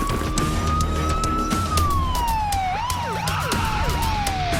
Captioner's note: siren blaring